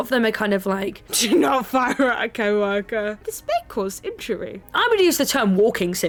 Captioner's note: laughs